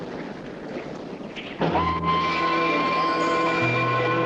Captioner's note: train whistle